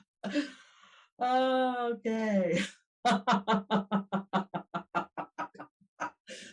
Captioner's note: laughs